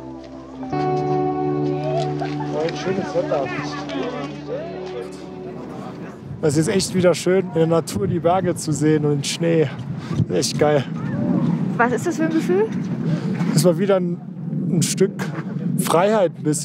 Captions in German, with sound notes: Ein schönes Wetter. (Stimmengewirr) Es ist echt schön, die Natur, die Berge zu sehen, und Schnee. Echt geil. - Was ist das für ein Gefühl? Es ist wieder ein Stück Freiheit ein bisschen.